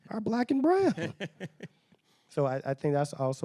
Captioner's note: laughing